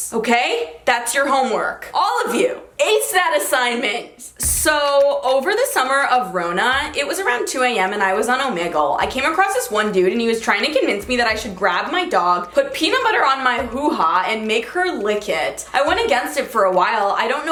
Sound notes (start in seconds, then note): none